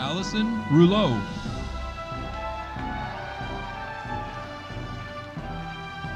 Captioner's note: audience applauding